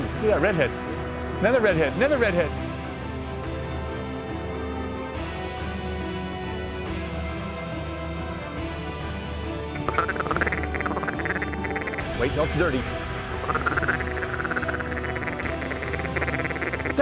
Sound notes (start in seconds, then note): 9.0 duck calls